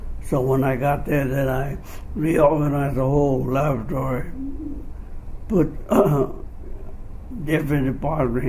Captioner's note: clears throat